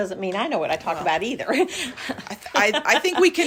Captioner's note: laugh